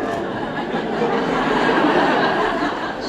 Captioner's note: laughter